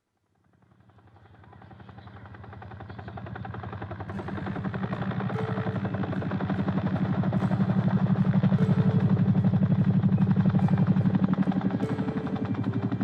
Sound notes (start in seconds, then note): 1.0 helicopter rotors droning